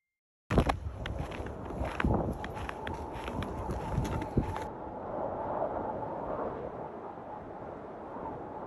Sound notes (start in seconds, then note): 4.0 wind blows